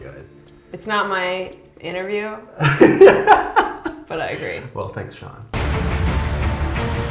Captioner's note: laughs